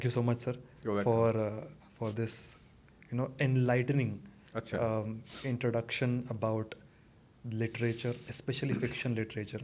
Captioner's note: snorts